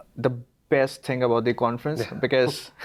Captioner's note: laughs